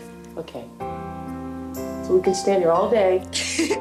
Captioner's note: laughs